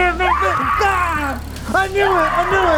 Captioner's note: screaming